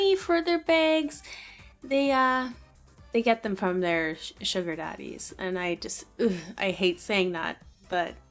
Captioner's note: ugh